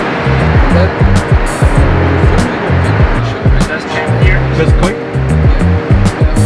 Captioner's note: engine noise over speaking